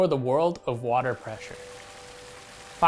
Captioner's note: water pouring